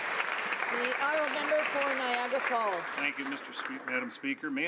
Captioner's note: applause